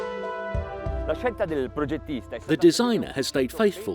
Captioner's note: speaking in foreign language